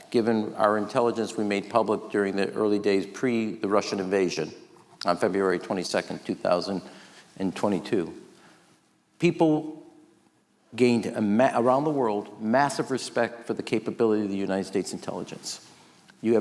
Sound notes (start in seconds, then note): none